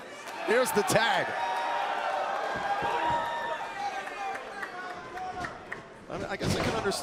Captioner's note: crowd cheering